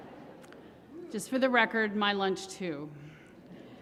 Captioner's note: laughter